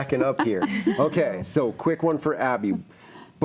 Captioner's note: laughs